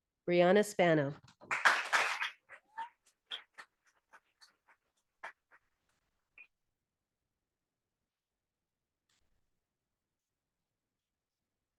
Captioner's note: audience applauding